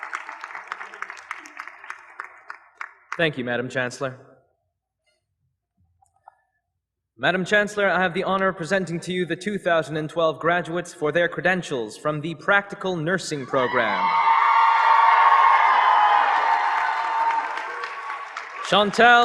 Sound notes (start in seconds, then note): 4.3 applause